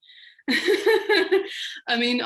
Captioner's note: laughing